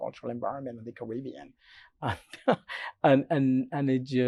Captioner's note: laughs